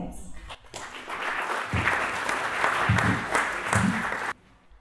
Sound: clapping

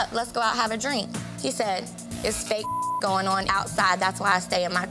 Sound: beep

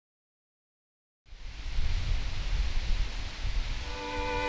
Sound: wind rustling; somber music

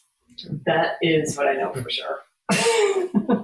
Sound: laughs

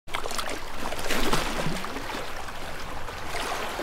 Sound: water splashing

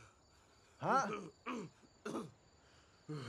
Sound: Daveed continues groaning

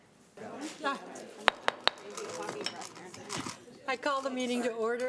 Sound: gavel banging

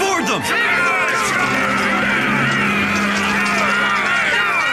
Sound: all shouting

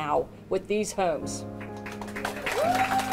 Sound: crowd applauding

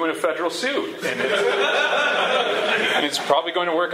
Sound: laughter

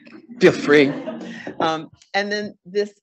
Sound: all laughing

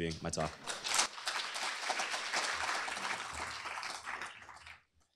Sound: applause

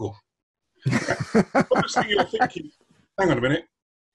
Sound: laughter

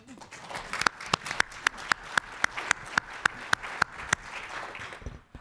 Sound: audience applause

